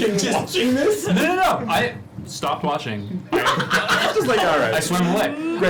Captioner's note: laughs